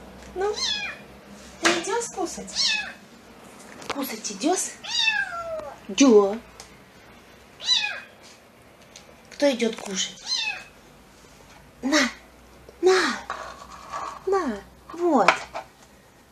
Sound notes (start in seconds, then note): 0.5 kitten meows; 2.5 kitten meows; 4.8 kitten meows; 7.6 kitten meows; 10.2 kitten meows